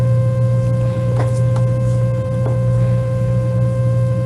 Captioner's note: buzzing sound